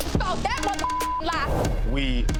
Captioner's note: beep